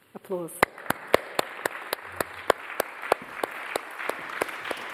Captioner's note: audience applauding